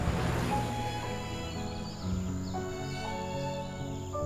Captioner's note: car engine running; nature sounds; soothing instrumental music playing